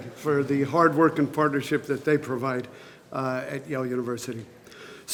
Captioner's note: none